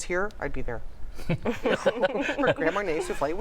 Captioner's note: laughter